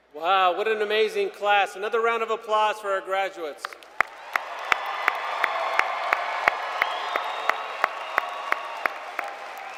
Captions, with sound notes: >> Wow! What amazing class. Another round of applause for our graduates. (Applause).